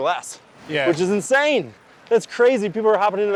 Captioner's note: pat